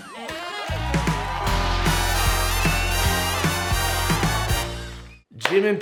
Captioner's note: crowd cheering loudly